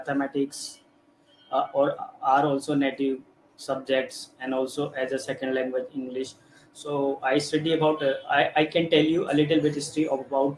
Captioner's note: hindi